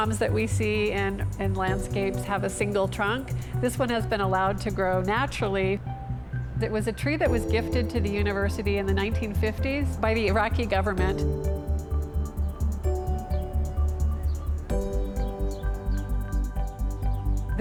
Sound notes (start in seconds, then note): 12.5 birds chirpping